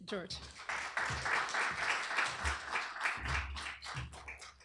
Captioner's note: applause